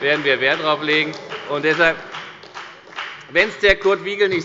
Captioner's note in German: Beifall bei der CDU